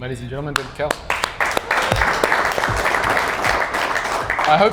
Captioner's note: clapping